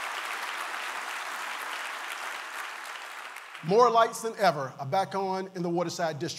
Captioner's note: applause